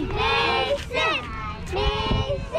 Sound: sounds of chanting

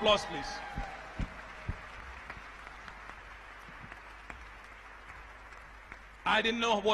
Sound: applause

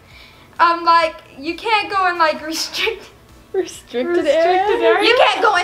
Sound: laughs

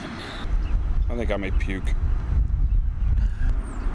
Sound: sighs

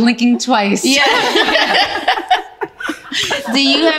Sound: ladies laughing

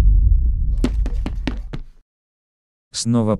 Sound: quick steps

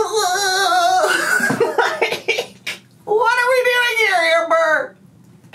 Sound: laughing

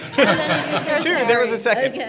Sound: laughing

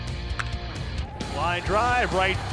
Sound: crack of the bat

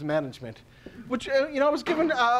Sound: bang

